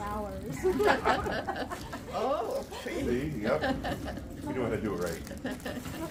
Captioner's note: laughter